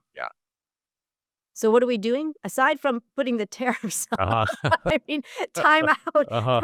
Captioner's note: laugh